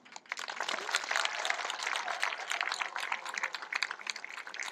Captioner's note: applause